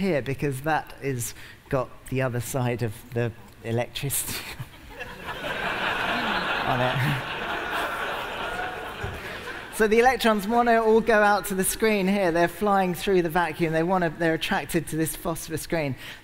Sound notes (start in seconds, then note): 6.4 laughter